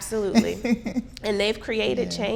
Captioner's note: laughing